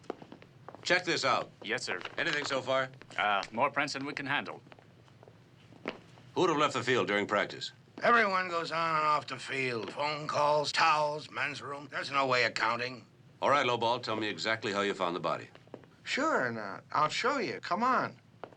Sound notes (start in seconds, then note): none